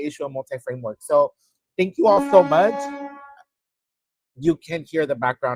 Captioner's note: horn blaring